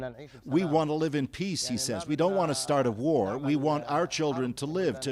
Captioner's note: speaking alternate language